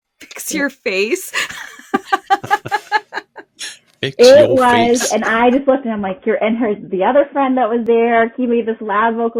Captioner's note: laughter